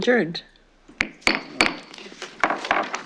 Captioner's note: gavel tapping